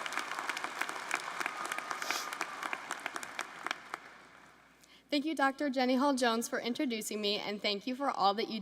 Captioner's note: applause